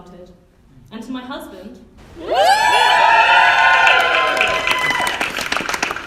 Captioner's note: whooping and Cheering